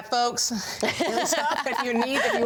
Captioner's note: laughs